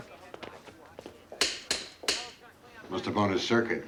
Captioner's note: clicking switches